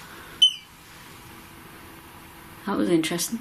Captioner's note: beep